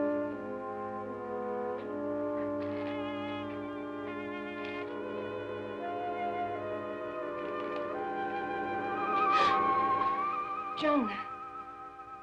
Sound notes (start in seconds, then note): 8.7 Sheila gasps; 8.7 eerie music